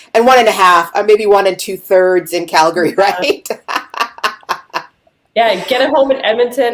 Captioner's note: laughing